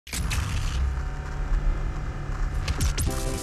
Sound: DOOM 2016 BFG sfx

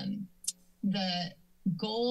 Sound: clicks tongue

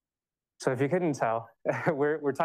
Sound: chuckles

